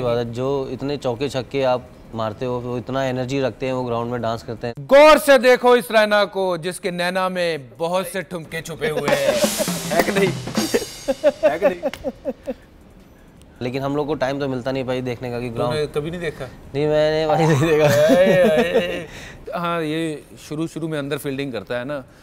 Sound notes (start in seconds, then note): 8.8 raina Laughs; 17.4 Raina laughs embarrassingly